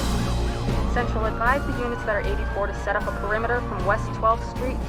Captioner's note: officer over radio